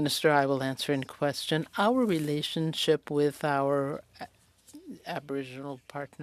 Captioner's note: speaking French